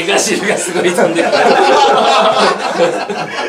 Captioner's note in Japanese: 笑い